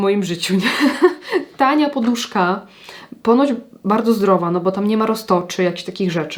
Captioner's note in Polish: śmiech